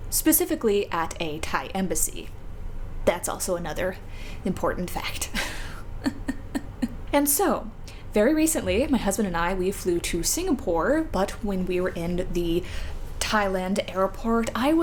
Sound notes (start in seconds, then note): 6.0 pained laughter